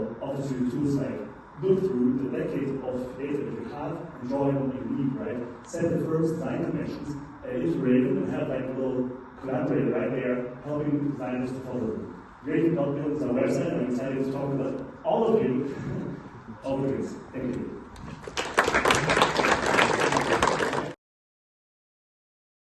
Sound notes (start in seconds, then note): 17.1 laughs; 18.1 clapping